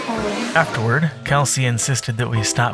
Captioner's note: voiceover